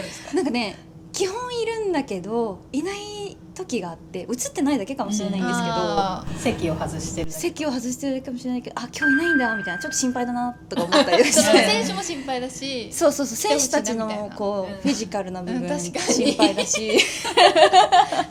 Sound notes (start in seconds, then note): 16.8 laughs